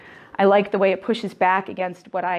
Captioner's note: none